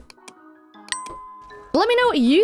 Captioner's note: ding sound